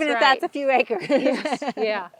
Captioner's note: laughing